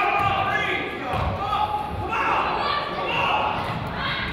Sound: coach yells

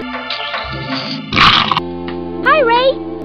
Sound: crumch!!!!

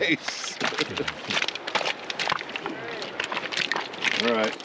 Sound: chuckling

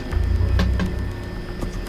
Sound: tapping on desk

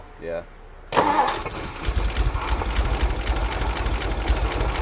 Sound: engine revving

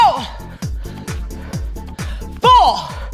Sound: gasping

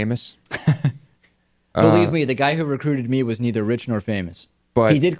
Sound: laughs

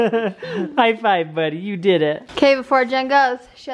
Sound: voiceover

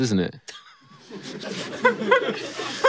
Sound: laughs in the background

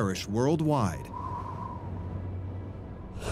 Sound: wind howling

